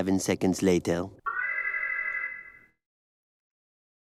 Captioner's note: alarm